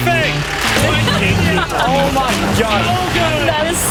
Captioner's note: laughs